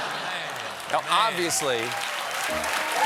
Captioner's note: laughter; cheers and applause; piano riff